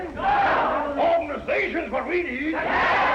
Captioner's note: all chattering